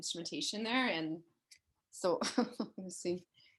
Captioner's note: chuckles